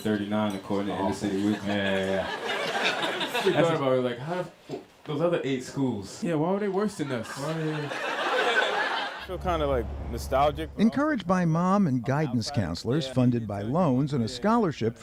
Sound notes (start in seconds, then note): 1.2 laughter; 9.3 laughter